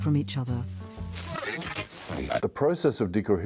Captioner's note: radio crackling